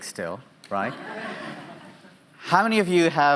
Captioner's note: audience laughing